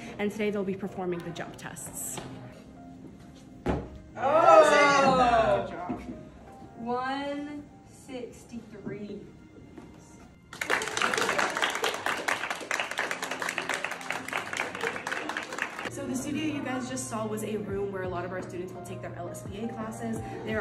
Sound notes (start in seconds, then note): 4.2 people reacting; 10.4 people clapping